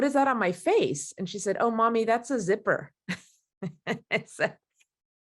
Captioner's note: laughs